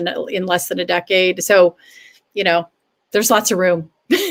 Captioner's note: laughter